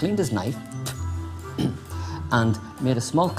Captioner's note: spits